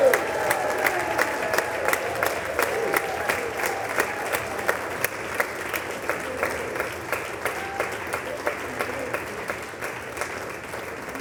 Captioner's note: applause